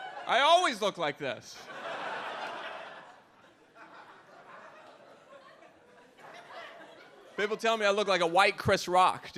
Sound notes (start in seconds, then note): 1.6 audience laughs